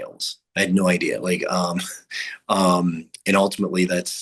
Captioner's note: chuckles